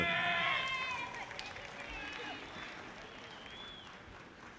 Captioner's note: audience applauding